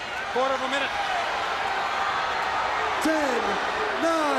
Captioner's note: crowd cheering